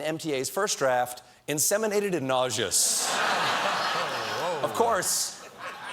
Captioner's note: laughter